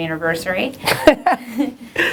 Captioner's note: laughter